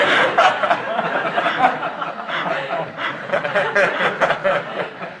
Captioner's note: laughter